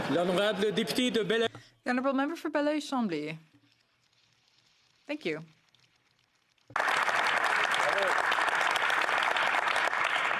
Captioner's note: laughter